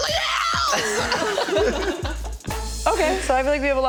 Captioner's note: all laughing